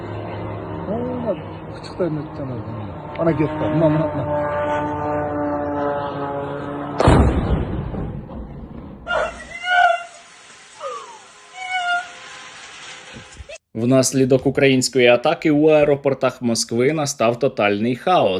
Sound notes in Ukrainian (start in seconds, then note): 1.6 звук дрона; 10.1 вибух